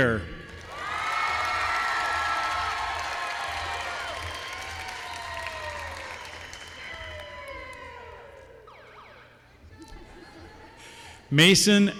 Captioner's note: applause